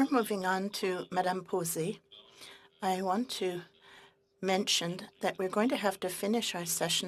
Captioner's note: speaking French